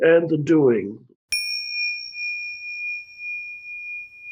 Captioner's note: bell dinging